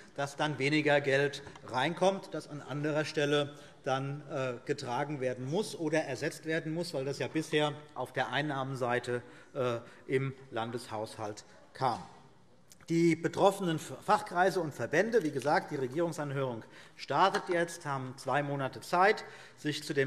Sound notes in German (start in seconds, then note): none